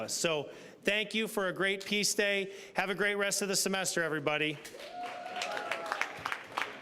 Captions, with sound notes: So thank you for a great Peace Day. Have a great rest of the semester, everybody. (applause)